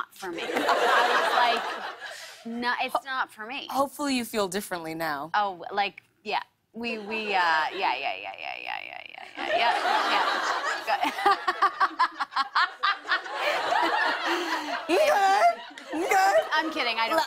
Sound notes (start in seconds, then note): 11.0 laughter